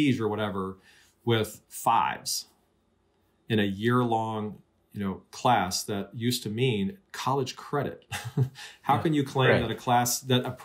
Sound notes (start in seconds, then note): 8.0 laughter